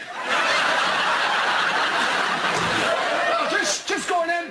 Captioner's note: laughter